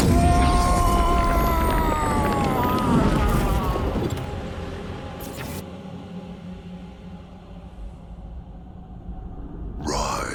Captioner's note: screaming